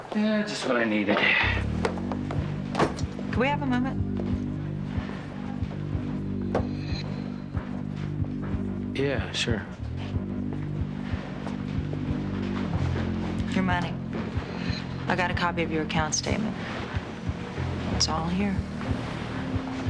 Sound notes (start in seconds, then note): 1.8 Nash sighing